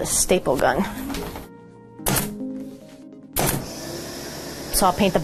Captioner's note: gun punching